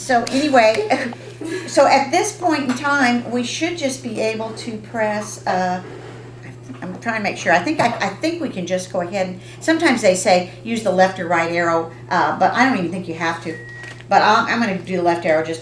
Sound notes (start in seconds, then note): 13.5 beep